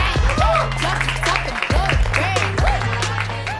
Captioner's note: clapping